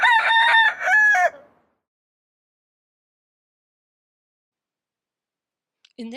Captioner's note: rooster crows